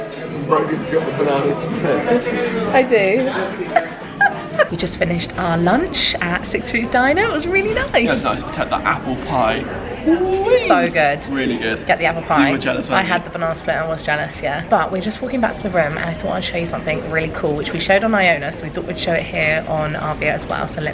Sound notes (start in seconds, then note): 3.7 laughing